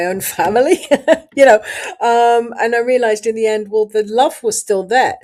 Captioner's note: laughs